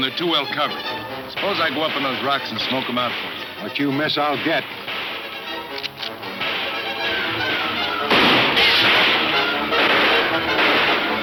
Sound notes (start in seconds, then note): 6.7 guns firing